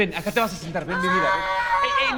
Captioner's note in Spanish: Grito